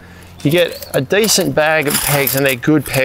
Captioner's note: metal clinging